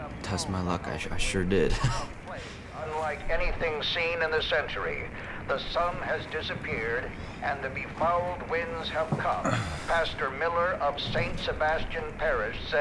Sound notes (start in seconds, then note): 3.2 radio Voice